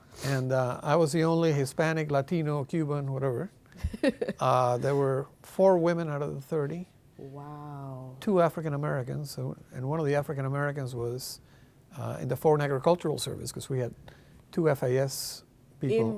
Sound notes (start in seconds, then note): 3.8 laughing